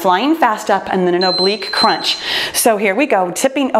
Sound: timer beeps

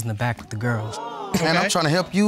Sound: audience exclaims

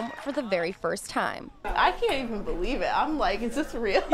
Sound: cheering

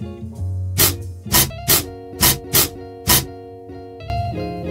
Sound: light music; spraying noise; light music

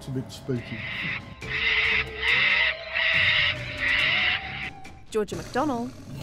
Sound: shrieking animal cries

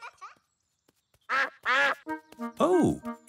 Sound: quacking

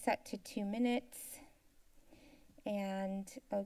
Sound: inhales

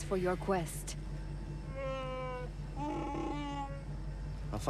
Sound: roar

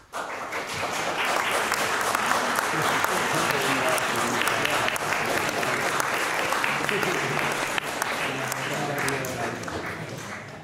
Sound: applause

